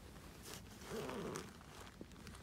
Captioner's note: zipper opening